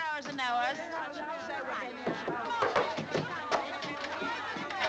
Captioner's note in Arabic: الناس يتحادثون